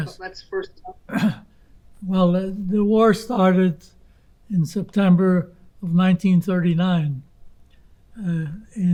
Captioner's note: clears throat